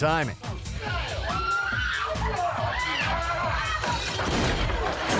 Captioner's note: woman screaming